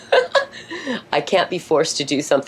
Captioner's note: laughs